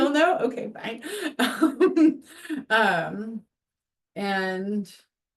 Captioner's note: laughs